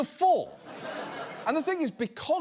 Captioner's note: audience laughs